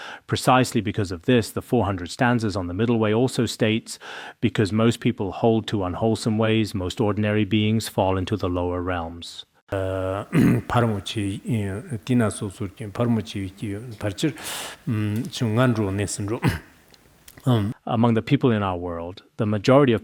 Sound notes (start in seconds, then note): 9.8 citing scripture in Tibetan